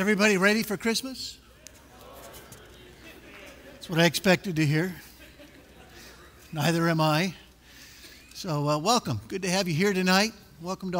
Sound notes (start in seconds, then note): 1.4 chatter and laughter; 5.0 laughter